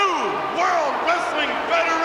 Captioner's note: crowd cheers